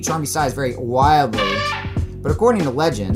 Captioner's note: elephant trumpet